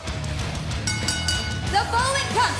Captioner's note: bell ringing